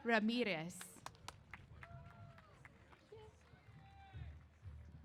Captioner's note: applause